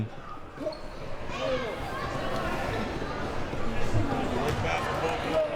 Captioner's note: audience chattering